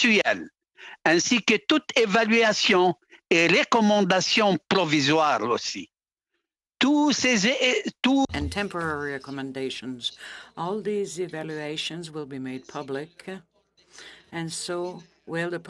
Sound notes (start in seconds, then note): 6.7 speaking in French